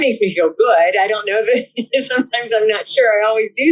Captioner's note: laughs